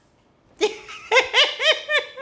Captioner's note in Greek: γέλια